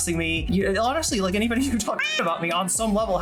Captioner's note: meow